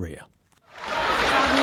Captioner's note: laughing